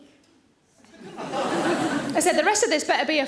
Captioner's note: audience laughing